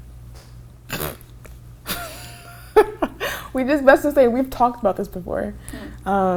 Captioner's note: laughs